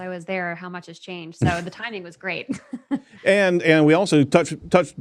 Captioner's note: laughs